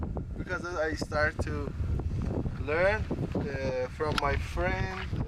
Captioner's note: none